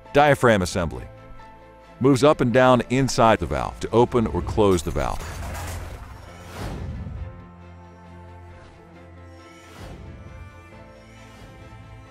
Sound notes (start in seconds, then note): 4.6 metal clanks; 7.6 bright instrumental music